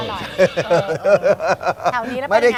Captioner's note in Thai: หัวเราะ